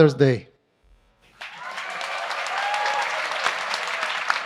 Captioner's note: applause